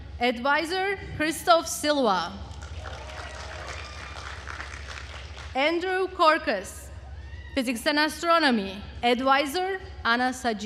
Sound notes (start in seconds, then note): 2.6 attendees cheering and applauding